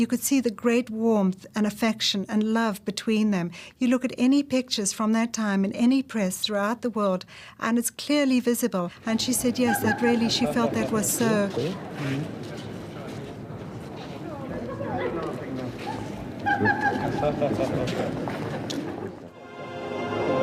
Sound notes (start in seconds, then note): 16.4 laughter